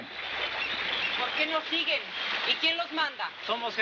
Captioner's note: speaking in foreign language